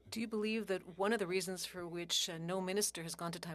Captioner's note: speaking French